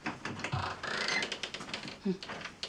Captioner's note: door creaks